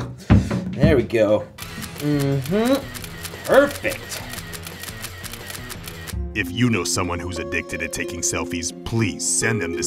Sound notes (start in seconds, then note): 1.6 camera snaps repetitively